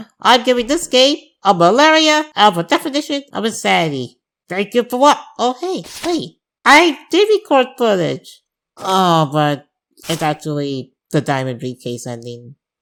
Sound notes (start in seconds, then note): none